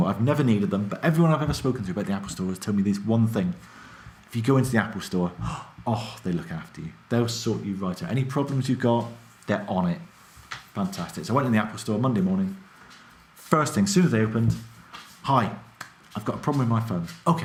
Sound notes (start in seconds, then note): none